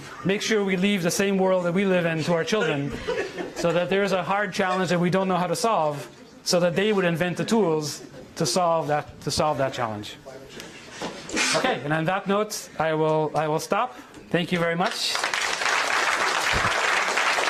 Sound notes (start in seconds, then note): 14.8 applause